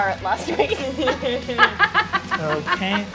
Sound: laughing

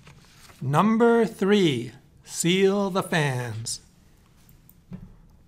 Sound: voiceover

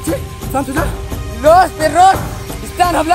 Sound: in Hindi

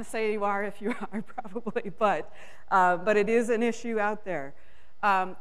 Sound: laughs

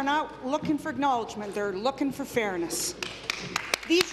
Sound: applause

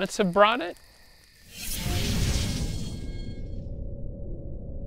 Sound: whooshing

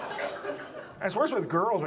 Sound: audience laughs

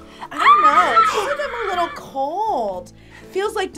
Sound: screams

